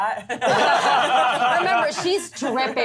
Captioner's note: laughter